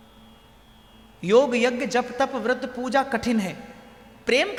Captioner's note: chanting